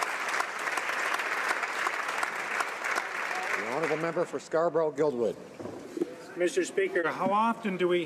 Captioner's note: some Applause